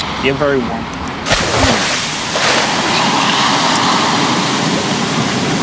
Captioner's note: sizzling; water splashing